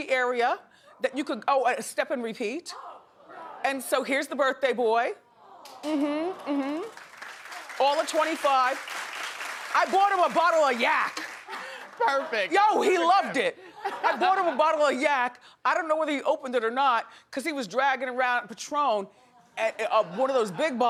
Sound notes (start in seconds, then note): 8.7 audience applauding